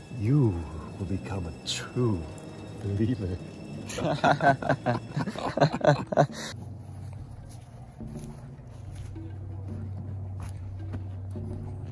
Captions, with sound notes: You will become a true believer. *both laughing*